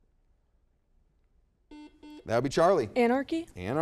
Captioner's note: buzzer beeps